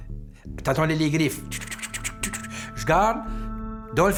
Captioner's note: makes the sound of claws